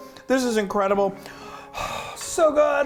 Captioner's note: sighing